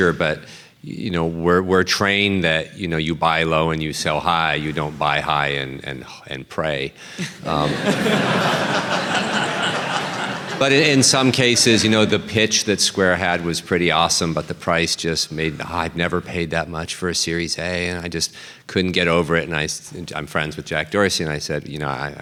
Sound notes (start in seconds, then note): 7.2 laughter